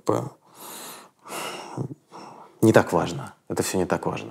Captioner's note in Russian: вздыхает